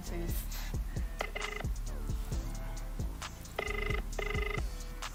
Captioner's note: line trilling